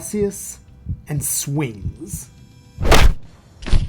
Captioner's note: Sound of microscope colliding with Magnolia’s head; Thump as Magnolia’s body hits the ground